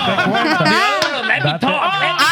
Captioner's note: speaking Spanish